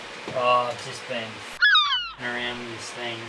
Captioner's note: seagull squawk